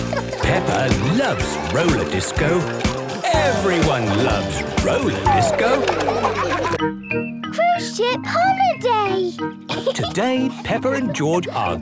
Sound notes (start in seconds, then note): 6.0 laughter